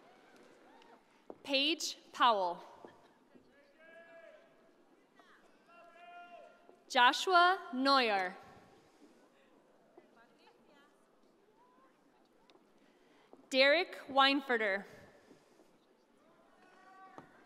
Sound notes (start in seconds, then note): none